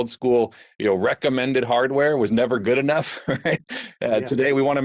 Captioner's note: laughs